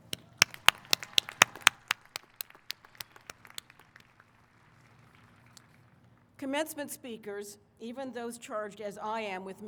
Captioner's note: applause